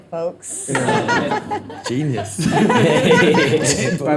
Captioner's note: all laughing